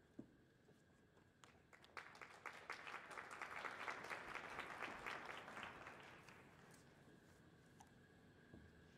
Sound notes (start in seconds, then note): 1.9 audience applauding